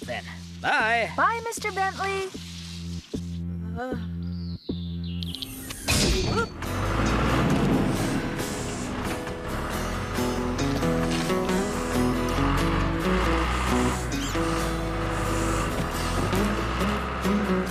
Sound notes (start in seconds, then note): 5.9 clang; 13.5 engine Running